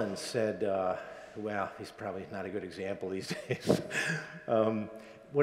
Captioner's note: laughs